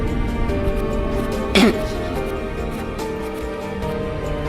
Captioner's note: coughs